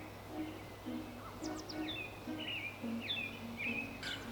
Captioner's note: birds chirp